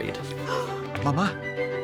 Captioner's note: gasps